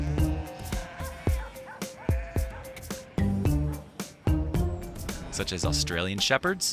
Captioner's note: dog barking; sheep bleating